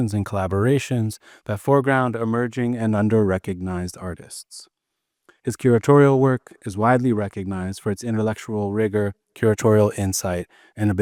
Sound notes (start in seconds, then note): none